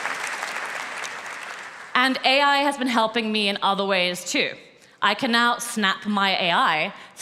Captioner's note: applause